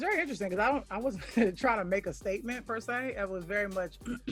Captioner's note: chuckles